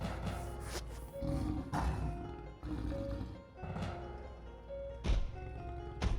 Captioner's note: growls; dramatic music